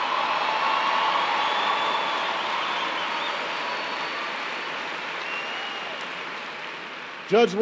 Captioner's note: applause